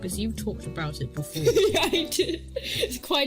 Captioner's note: laughing